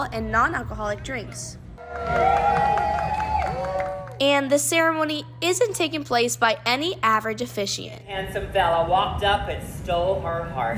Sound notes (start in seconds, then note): 1.8 applause